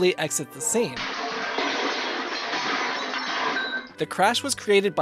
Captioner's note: loud crash